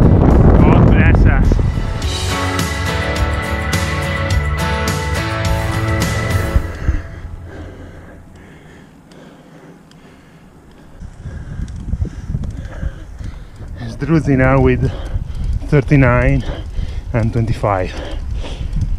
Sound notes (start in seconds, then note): 6.0 I'm panting heavily